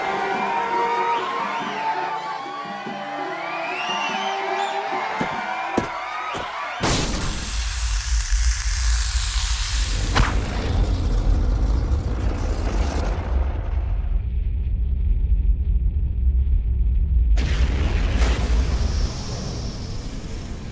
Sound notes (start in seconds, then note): 0.0 crowd cheering; 7.0 dramatic music; 7.0 feet thuds; 11.3 fire roaring